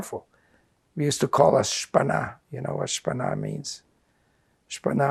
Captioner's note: non-english